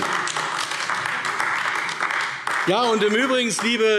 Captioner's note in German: Beifall AfD